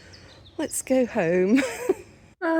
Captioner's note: laughing